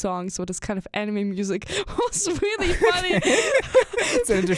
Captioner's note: both laugh